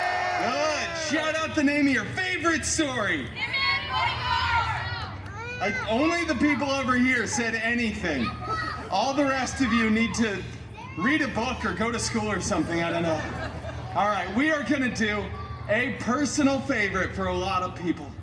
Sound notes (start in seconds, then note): 0.0 guests cheering and screaming; 3.4 guests shouting